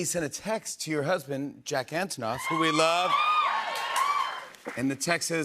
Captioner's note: cheers and applause